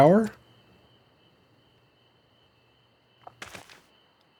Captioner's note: crickets chirping